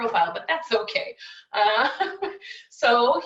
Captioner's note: chuckling